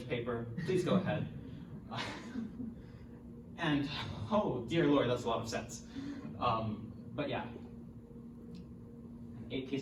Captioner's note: laughs